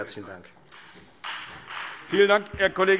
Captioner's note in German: Beifall Freie Demokraten